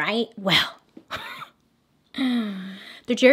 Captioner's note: laughs; deep inhale